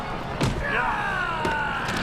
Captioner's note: thud